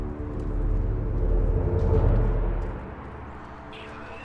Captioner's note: more flags flutter in the wind